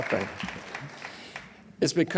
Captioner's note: laughs